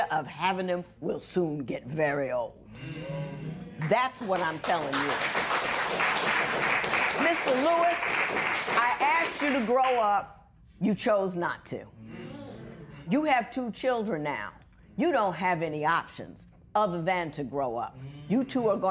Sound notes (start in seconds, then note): 4.4 applause